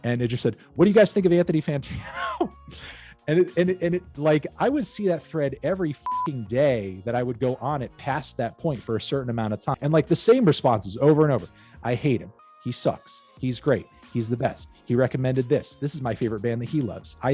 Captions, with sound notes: and it just said, what do you guys think of Anthony Fantano? And like I would see that thread every (beep) day, that I would go on and pass that point, for a certain amount of time, and like the same response is over and over, I hate him, he sucks, he's great, he's the best, he recommended this, this is my favorite band that he loves,